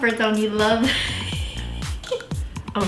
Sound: giggles

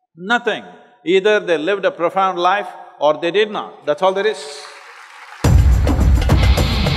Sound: applause

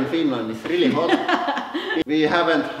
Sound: laughs

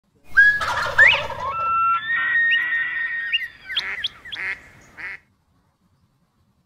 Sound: bird calls

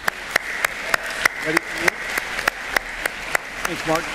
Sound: applause

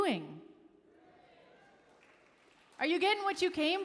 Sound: audience cheering; audience applauding

